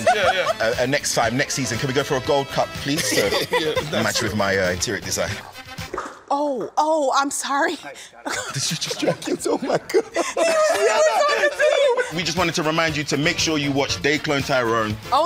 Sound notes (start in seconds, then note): 2.9 Teyonah laughing; 8.2 laughs; 10.8 both laughing